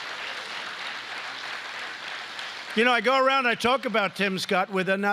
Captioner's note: applause